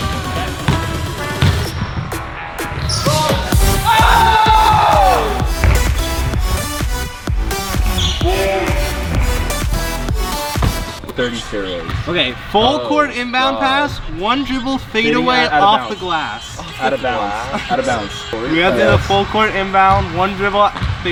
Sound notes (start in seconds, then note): 0.1 ball bounces; 3.0 group cheers; 5.9 upbeat techno music